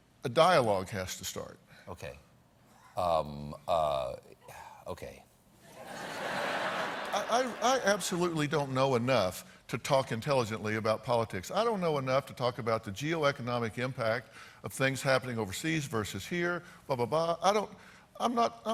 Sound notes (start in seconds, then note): 5.6 laughter